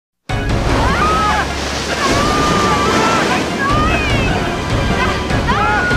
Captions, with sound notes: [SCREAMS] -GRAB THE ROCK! -I'M TRYING!